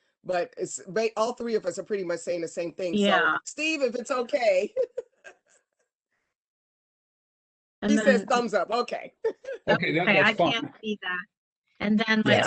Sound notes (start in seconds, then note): 4.7 laughter